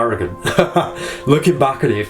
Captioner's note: laughing